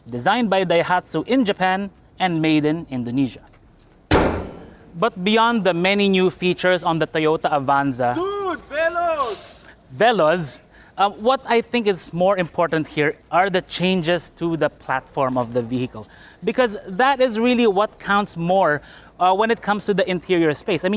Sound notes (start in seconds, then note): 4.1 hood closes